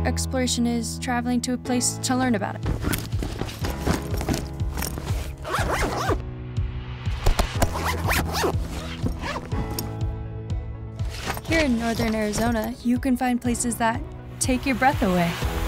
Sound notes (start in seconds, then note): 2.6 unzipping bag